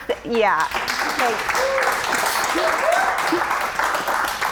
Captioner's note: audience applauding